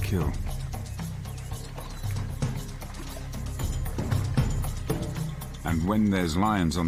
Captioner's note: birds chirping; dramatic music